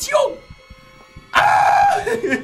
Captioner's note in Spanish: Grita